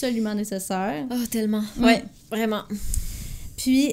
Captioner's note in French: soupir